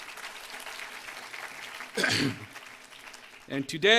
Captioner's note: applause